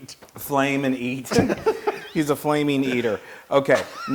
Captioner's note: laugh